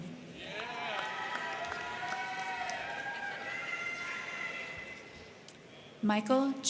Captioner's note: crowd cheering; crowd clapping